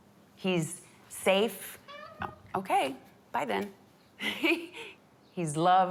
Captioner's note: laughs